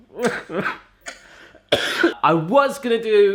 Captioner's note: cries; coughs